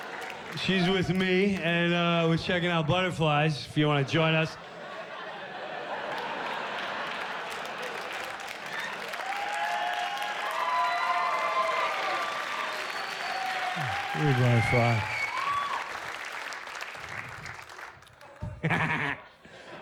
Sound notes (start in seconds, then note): 8.4 cheers and applause; 17.8 cackles